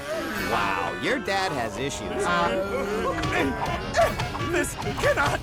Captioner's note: shrieking